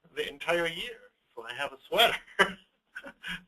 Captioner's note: chuckles